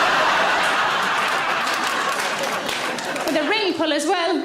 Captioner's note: audience laughing